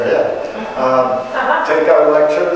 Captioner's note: audience chuckling